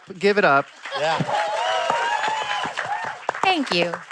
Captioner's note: cheering, applause